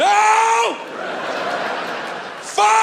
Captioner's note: audience laughing